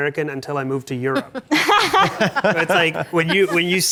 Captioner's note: panelists laugh